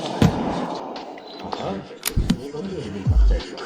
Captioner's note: beeping